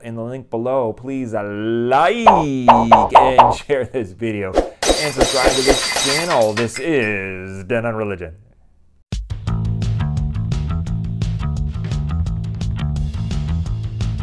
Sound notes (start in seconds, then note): 2.2 popping sounds; 4.7 glass breaking